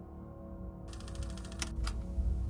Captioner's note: gloomy music; button clicks; projector clatters; gloomy music